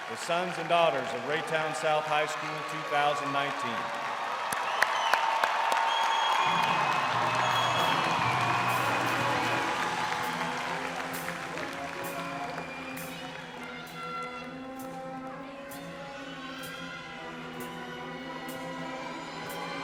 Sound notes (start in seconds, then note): 4.6 crowd cheering; 9.1 upbeat orchestra music